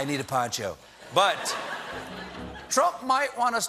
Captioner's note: laughter